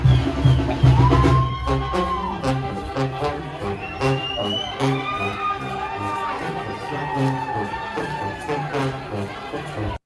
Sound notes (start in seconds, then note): 1.8 audience cheering; 1.8 upbeat trumpet music